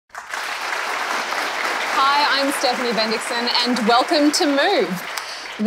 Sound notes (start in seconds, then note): 0.0 applause